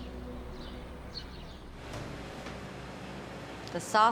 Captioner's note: birds chirping